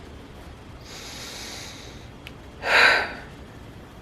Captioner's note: deep breath, deep sigh